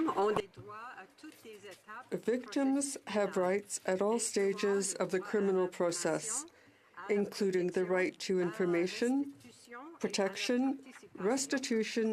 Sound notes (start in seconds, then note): 8.5 speaking in French